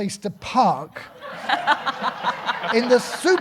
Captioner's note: audience laughing